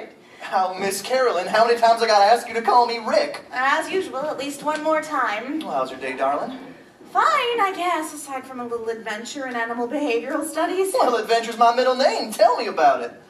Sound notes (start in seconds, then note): none